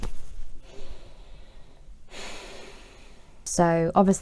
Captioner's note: sighs